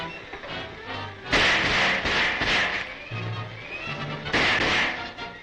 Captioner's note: gunfire blasting